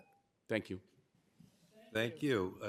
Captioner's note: timer tone